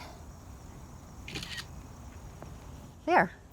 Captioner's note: camera clicking